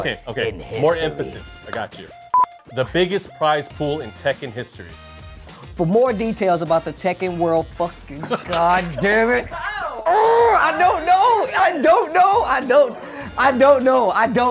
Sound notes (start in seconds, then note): 2.3 beep